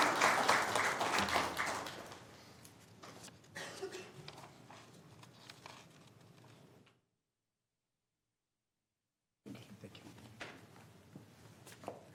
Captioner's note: applause